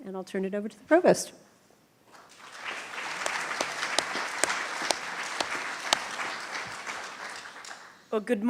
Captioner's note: applause